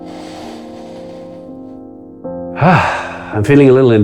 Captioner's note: breaths in and out heavily